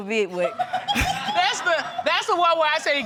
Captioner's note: audience laughing